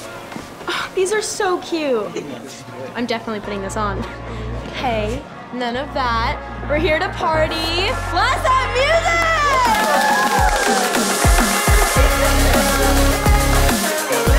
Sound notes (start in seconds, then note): 9.4 cheers and applause